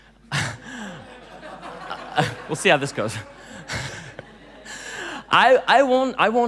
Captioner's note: laughing